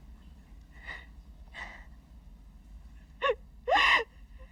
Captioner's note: Jeri crying